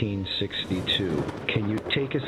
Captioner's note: thunder booming